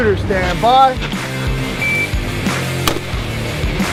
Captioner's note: device beeping; intense rock music continues; weapon firing